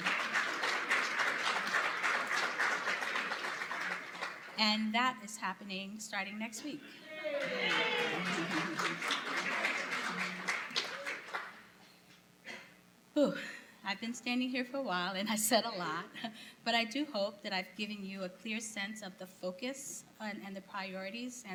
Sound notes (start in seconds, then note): 0.0 applause; 7.0 cheering